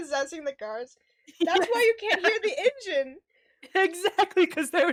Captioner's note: laughs